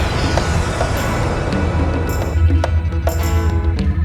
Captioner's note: engine sound